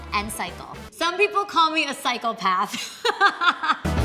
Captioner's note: laughs